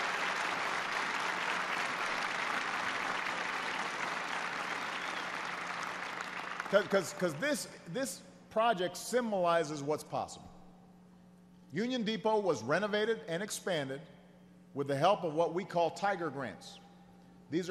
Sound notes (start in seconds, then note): 1.8 applause